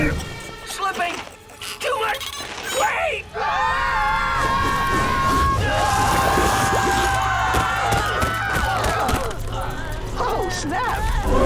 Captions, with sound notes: Slipping, too much weight! [screaming] Oh, snap.